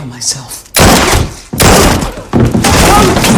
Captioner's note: gunshot; sound of guy in pain